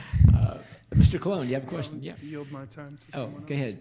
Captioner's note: laughing